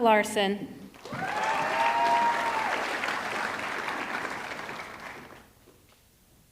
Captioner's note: audience clapping; audience cheering